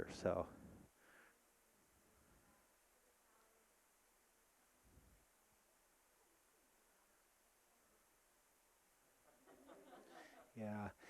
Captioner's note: audience laughing